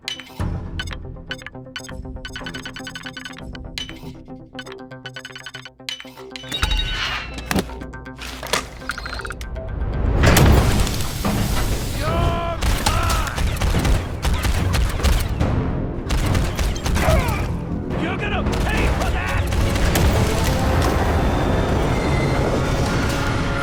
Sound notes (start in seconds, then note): 1.2 electronic chirping; 15.8 gun booming